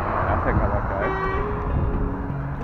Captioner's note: car Horn